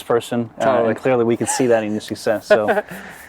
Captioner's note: voice muffled